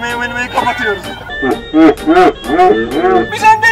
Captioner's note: Satisfied OK laughs